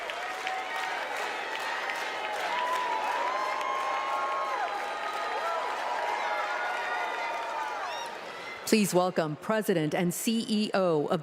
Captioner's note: cheers and applause